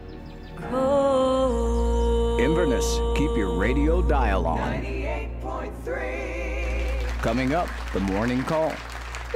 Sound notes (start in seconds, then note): 2.5 radio Announcer; 6.7 audience applauding; 8.4 radio Announcer